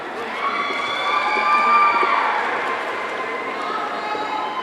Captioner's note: audience cheering